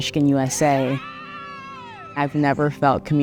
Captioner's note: clapping and screaming